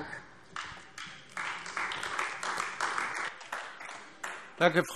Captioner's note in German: Beifall AfD